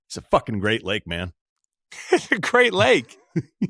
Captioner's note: laughs